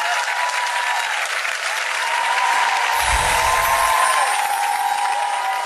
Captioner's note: loud clapping and cheering